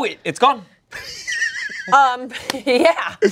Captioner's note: laughs